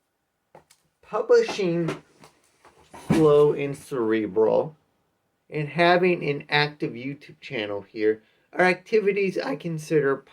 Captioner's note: thud of items crashing to the floor